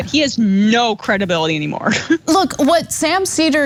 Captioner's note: laugh